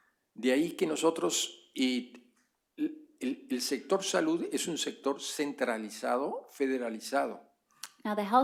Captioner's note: speaking spanish